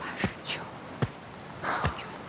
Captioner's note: stomps